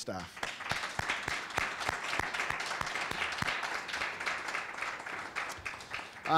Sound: applause

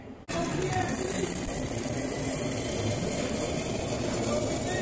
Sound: crackling

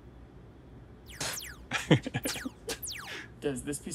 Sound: electronic laser gun sounds

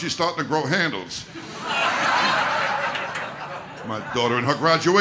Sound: audience laughter

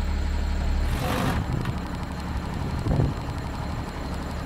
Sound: machine rumbling

